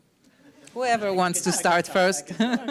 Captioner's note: audience laughs